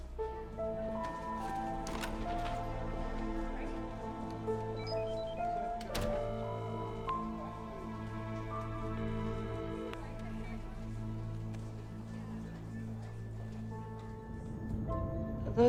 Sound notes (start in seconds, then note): 1.4 door latch clicks; 4.3 mystical music; 6.6 phone rings; 12.5 gentle music